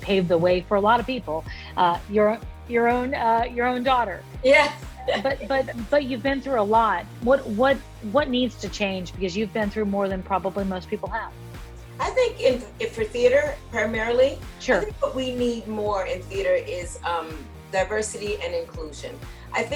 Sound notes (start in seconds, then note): 5.0 laughs